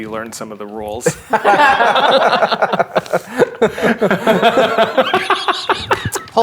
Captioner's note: players laughing